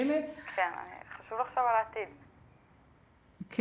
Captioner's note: speaking foreign language